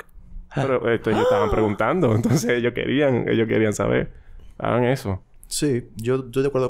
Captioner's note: surprise sound